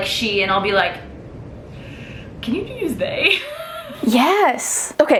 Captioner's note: laughs